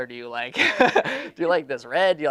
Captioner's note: laughing